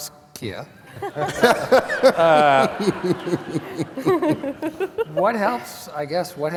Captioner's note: laughter